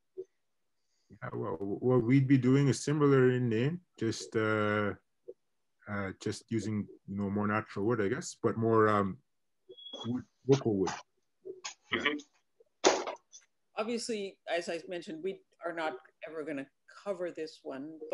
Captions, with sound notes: What we'd be doing is similar in Nain, just using no more natural word, I guess, but more (mutters) - Obviously, as I've mentioned, we are not ever gonna cover this one,